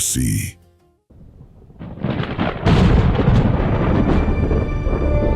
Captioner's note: thunder; suspensful music